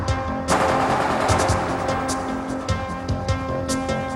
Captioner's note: gun firing